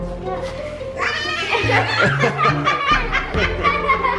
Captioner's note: laughter